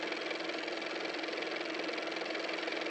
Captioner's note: car motor